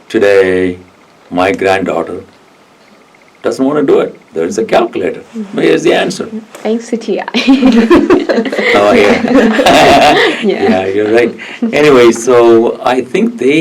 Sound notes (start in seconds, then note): 7.4 everyone laughs; 9.9 laughs